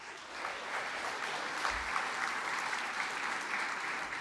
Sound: applause

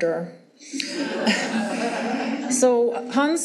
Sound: audience laughing

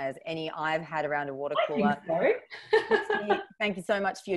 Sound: laughs

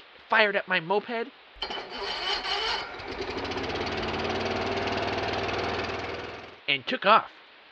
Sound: moped starting

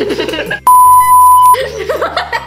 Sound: laughing; beeping; laughing

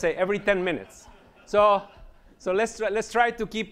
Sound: laughter

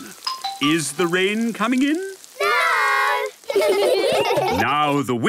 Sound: laughter

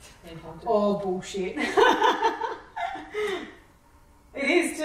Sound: laughs

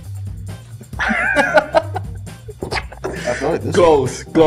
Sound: laughing

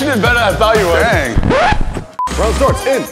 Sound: record scratch

